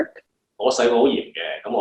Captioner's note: Cantonese